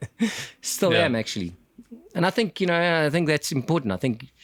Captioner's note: laugh